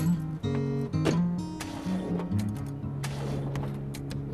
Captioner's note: CAR ENGlNE STALLlNG